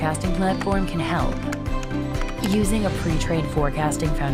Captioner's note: sound of typing